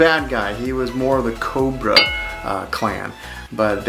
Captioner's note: bell dinging